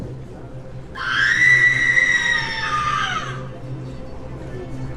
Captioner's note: a woman screams